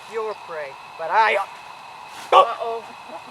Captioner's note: coughs